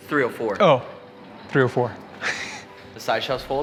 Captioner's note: laughs